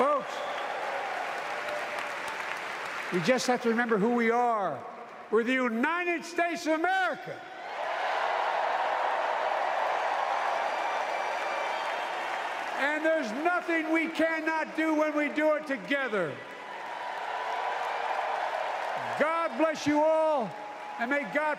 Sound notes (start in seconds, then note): 3.6 applause